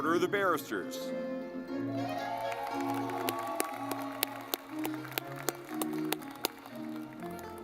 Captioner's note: lively music; audience clapping